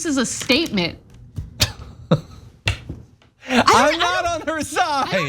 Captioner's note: laugh